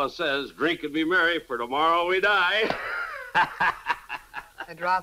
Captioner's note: chuckles